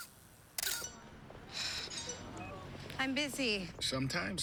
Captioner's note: cellphone rings; sighs